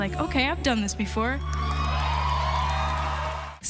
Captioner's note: audience cheering